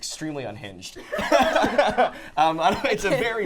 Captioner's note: laughing